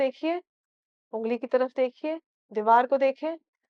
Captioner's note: in Urdu